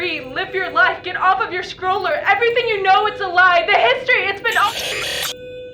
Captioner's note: distortion